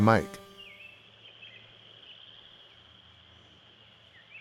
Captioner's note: birds chirping